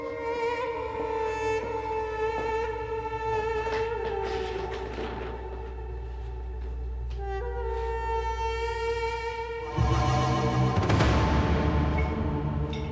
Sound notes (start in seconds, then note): 0.3 shoes stepping; 4.4 suitcase rattles; 9.6 dramatic music